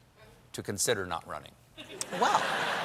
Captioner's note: laughter